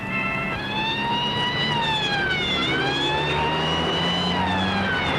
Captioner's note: siren wailing